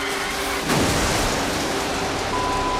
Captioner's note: crash